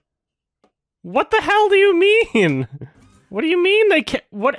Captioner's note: cracks up at the end slightly